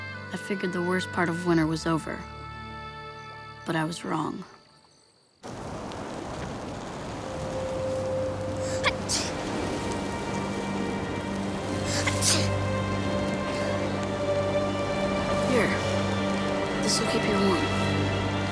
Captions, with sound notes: I figured the worst part of winter was over, but I was wrong. (wind blowing) (sneezing) - Here, this will keep you warm.